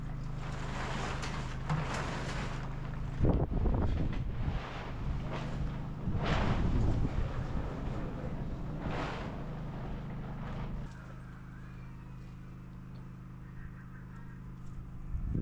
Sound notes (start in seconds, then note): 9.1 wind whooshing